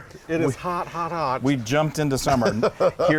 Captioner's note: laugh